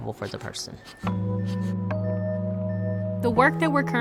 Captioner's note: machine beeping